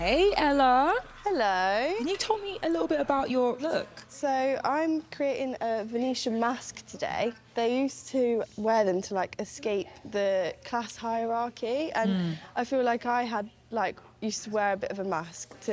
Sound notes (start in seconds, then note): none